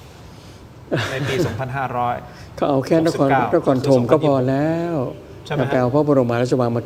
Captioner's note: laughter